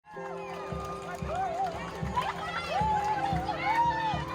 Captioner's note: protesters cheering